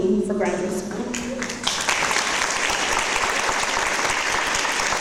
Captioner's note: audience applause